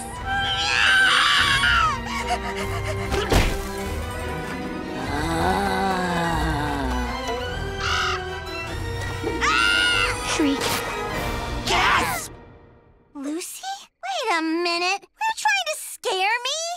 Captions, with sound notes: [screaming] [panting] [thudding] [moaning] [squawking] [screaming] Shriek. Gasp! Lucy? Wait a minute. You trying to scare me?